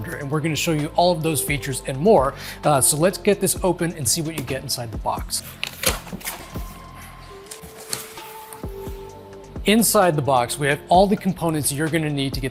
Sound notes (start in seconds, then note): 7.1 cardboard shuffling